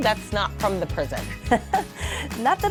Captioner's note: laughing